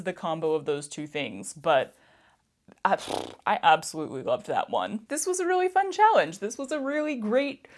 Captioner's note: mouth fart